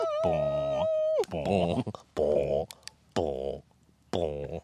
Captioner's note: devil Summoning Sounds